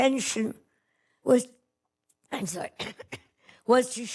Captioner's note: coughs